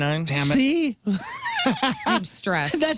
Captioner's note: laughing